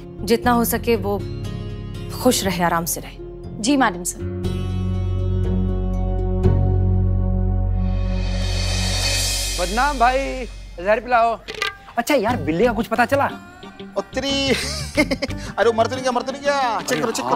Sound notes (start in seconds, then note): 4.8 intense music; 14.3 chuckles